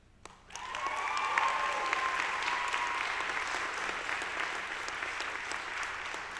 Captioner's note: audience applauding; audience cheering